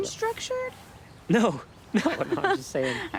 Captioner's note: both laughing; chuckles